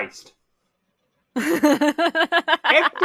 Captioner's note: laughs